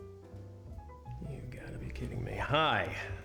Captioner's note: muttering